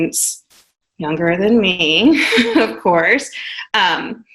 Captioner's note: chuckles